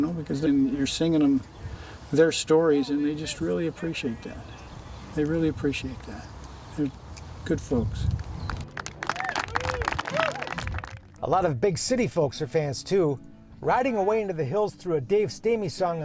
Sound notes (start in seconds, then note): 8.1 applause